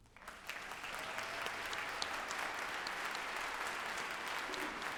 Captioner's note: group applauding and cheering